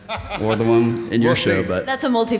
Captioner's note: laughs